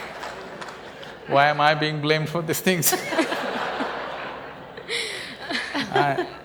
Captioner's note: laughter